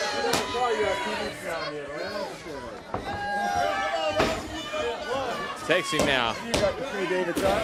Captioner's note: crowd cheering